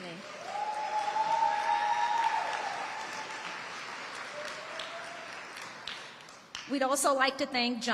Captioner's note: audience applauding and cheering